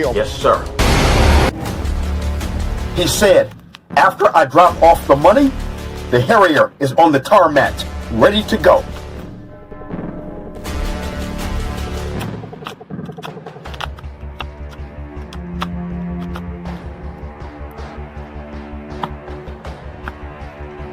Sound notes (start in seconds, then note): 0.0 dramatic music; 12.0 money flitting; 12.2 tense music